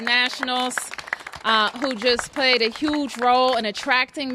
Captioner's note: applause